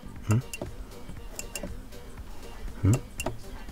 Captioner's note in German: Leeres Klicken